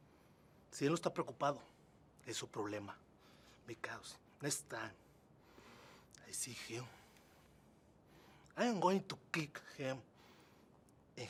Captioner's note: speaking spanish